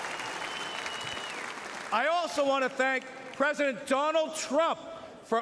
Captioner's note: cheering and Applause